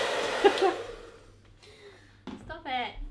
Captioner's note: laughing